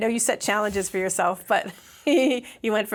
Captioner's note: laughs